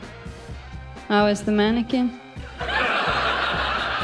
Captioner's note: laughter